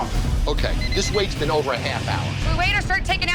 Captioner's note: alarm beeping